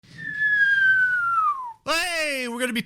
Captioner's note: whistling